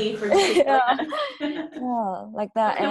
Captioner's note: laughter